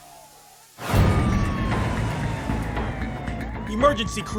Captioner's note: siren wails